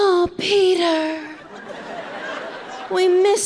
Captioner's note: audience laughing